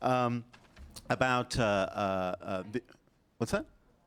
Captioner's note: off mike